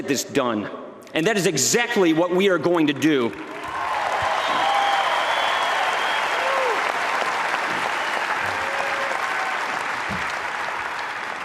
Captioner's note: applause